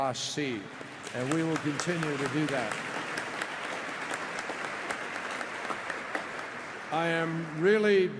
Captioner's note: applause